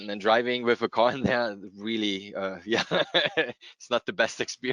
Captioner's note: chuckles